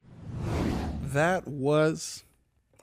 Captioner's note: swoosh